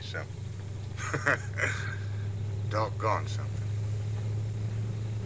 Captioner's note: laughs